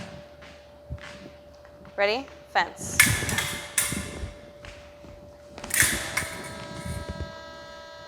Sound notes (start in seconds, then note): 2.9 clicking